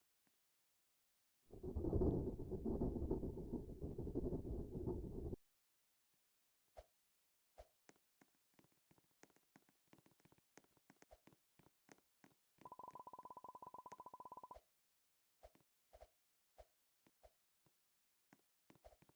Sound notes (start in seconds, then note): 1.5 rumbling